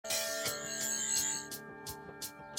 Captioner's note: sonic screwdriver buzzing